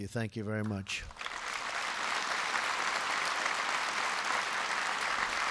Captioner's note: applause